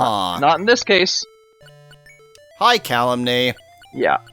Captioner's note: awkward silence